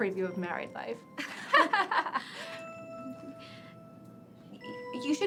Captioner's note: Lynn and Madison laughing